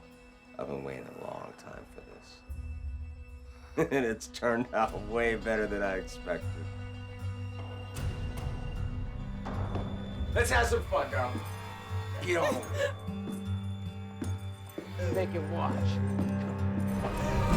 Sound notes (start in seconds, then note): 3.8 laughing